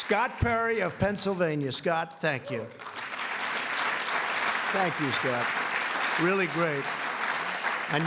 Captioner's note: applause